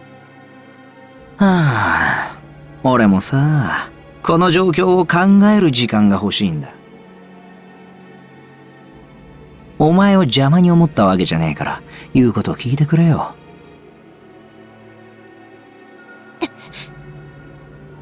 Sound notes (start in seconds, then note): 1.4 sigh